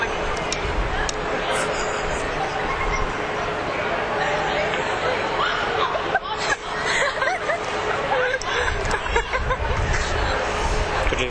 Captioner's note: laughing